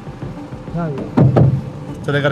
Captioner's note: tense music; knocking